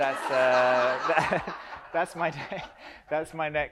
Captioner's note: audience laughs